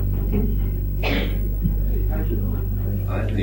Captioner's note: tense rhythmic music; cellmate coughing